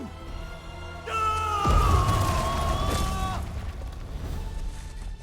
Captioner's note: scream